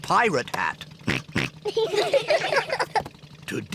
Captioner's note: oinks; all laugh